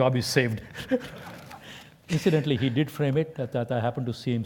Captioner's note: laugh